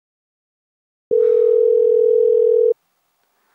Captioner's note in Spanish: tono de espera